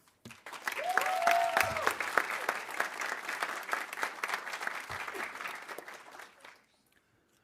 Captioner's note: audience applauding; audience cheering